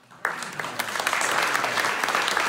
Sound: applause

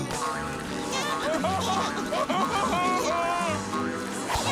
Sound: laughing

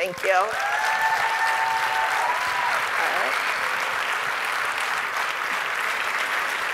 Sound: audience cheering and applauding

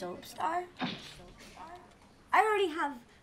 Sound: "Soap star" echoes

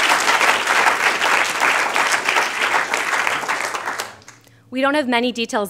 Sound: applause

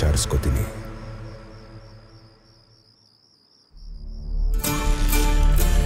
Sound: night Ambient Sound

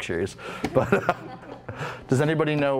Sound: laughter

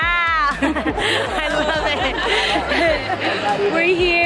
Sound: laughter

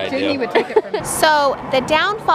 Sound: laughs

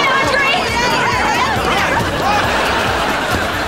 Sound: distant chattering

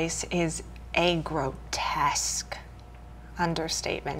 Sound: none

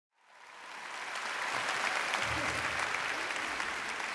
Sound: audience applauding

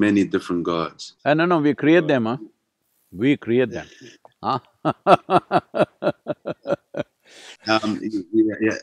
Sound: laughs

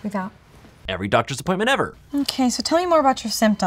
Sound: voiceover

